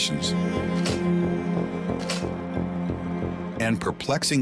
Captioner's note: slides clicking